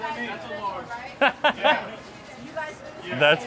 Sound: laughing

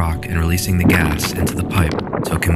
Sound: cracking sound

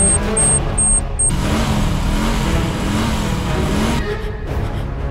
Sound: vrooming

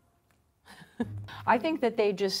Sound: laughs

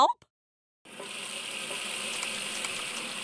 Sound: water running; water splashing

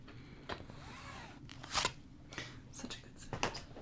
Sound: chalk zipping

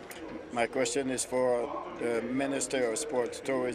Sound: speaking in french

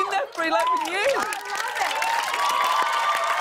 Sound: cheers and applause

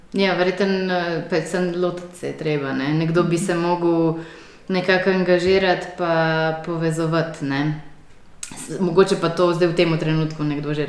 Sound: laughs

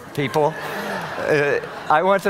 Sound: audience laughing

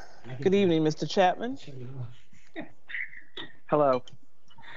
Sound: people chattering

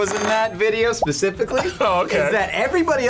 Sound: laughs

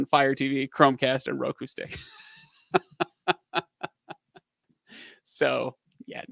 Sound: laughing

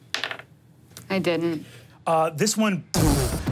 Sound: dice tap table

